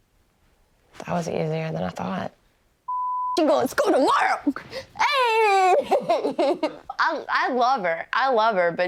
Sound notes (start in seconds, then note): 2.9 beep; 5.0 laughing